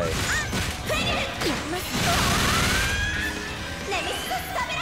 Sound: game sounds

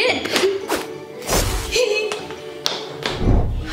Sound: zapping

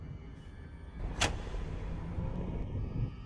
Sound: light flickers

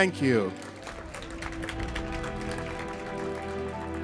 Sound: audience clapping; somber music

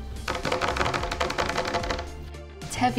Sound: tapping

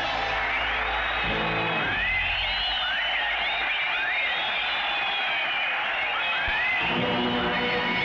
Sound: crowd cheering

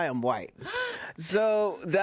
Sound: gasps

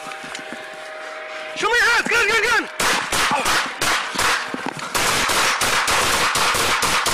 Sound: heavy breathing

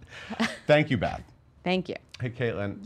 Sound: laughs

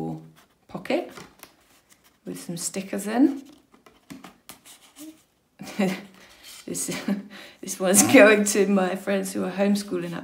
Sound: laughs

